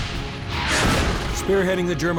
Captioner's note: tank exploding; tank turret firing